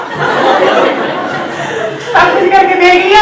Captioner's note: audience laughs